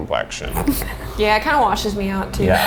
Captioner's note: laughs